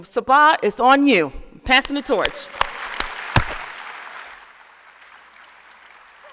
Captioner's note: applause